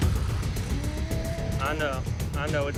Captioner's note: moaning